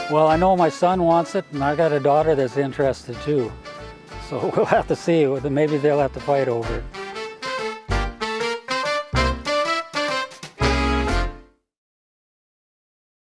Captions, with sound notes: Well I know my son wants it and I got a daughter that's interested too so we'll have to see, (chuckles) maybe they'll have to fight over it. (upbeat music continues)